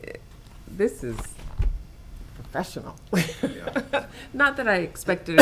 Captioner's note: laughs